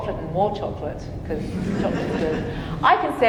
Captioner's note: audience chuckling